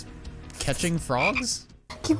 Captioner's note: ribbit